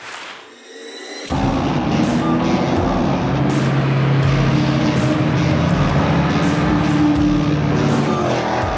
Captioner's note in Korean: 가슴을 울리는 엔진소리